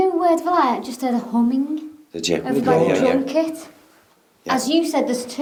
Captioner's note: speaks quickly